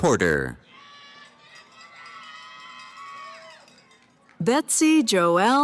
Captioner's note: cheering